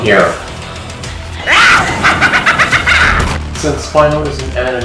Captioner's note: Spinal cackling